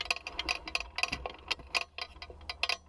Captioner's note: clinking noise